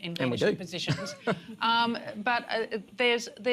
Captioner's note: laughs